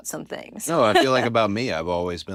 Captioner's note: laugh